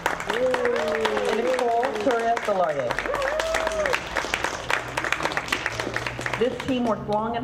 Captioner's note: audience clapping